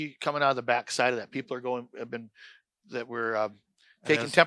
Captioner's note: stammers